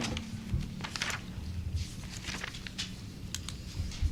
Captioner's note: pages flipping